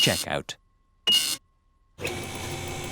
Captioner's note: beeping